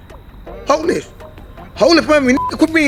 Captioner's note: beep